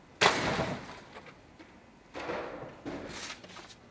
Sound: debris bangs

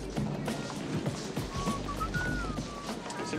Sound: whistles nonchalantly

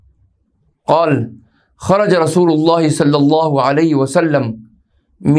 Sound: arabic

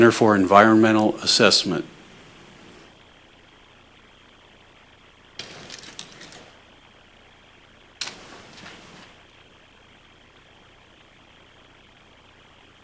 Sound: no speaking

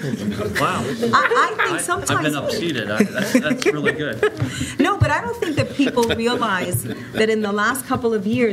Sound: laughter

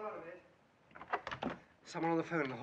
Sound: door opens

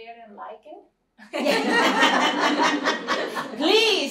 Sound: laughter

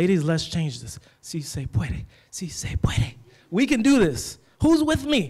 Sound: speaks foreign language

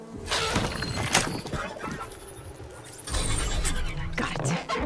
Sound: electronic sound

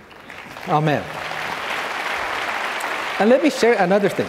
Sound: audience clapping

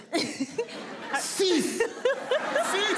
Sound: in foreign language; crowd laughing

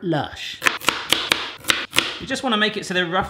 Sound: chopping noises

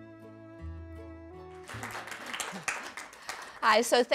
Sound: applause

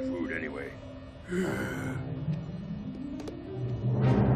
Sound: exhaling

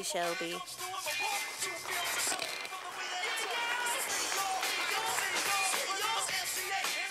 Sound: sound of applause from audience

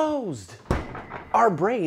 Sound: door thuds

